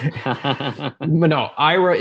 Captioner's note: laughs